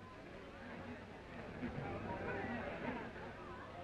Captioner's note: crowd murmuring